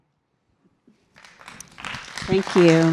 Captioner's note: audience applauding